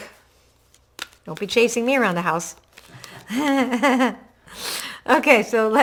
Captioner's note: laughs